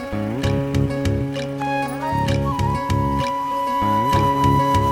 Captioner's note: sound of vehicle engine fades out